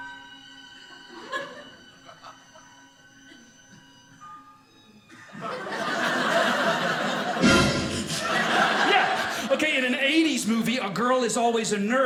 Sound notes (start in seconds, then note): 0.0 suspenseful music; 5.3 audience laughing; 7.4 suspenseful music swells; 8.3 audience laughing